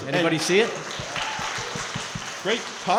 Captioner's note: crowd clapping & cheering